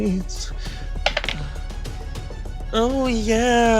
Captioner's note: die rolling